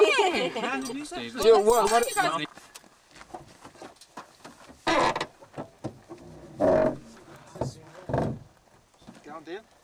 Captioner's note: laughter